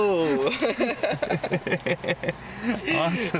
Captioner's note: laughter